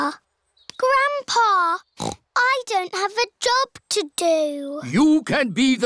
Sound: snorts

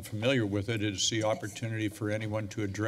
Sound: mic rustling

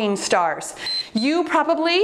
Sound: timer beeps

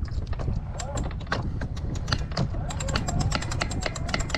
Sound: wrench clicks

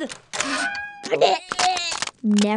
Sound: barfs

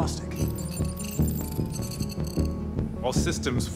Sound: electronic chirping

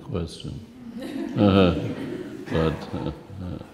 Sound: laughs

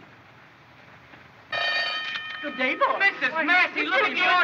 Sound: bell Rings

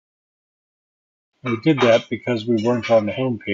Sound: clanging noise

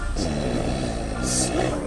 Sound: snoring

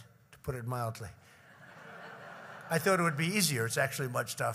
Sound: laughter

